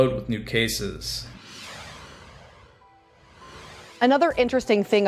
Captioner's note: logo whooshes